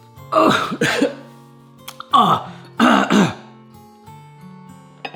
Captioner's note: coughing